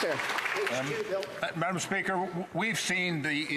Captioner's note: some Applause